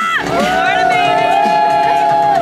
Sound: all cheer

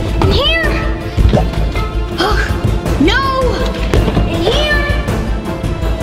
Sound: scoffing

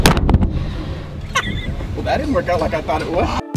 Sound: laughs

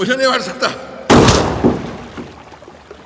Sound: gunshot

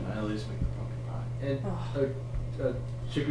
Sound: muttering

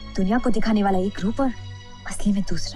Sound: none

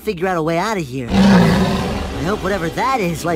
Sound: tiger roar

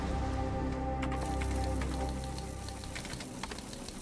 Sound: text clacking; keyboard clacking

